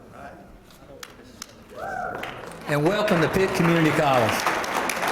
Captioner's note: applause